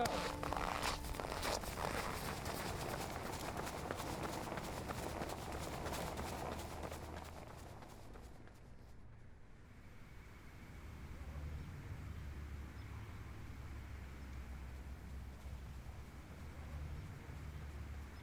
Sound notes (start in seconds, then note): 0.0 snow crunching softly